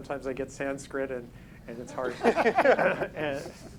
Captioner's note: panel members laughing